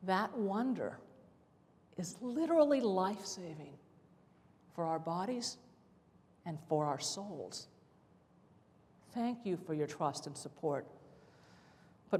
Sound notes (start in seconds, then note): none